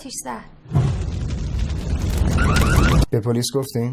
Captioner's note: fire burning, car alarm